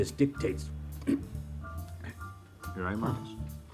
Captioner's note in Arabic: يصفي حلقه